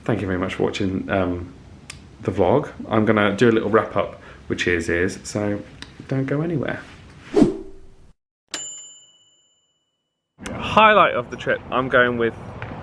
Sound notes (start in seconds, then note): 8.6 ping